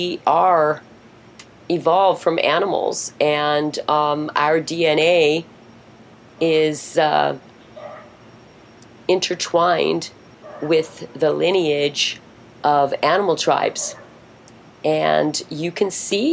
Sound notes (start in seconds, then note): none